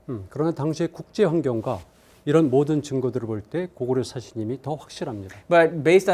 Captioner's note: speaking in Korean